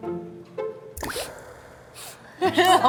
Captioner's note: sniffle... Sniffle